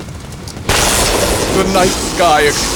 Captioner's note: lightning